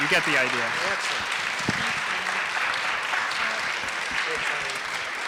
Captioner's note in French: applaudissements